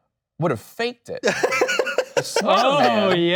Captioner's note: laughing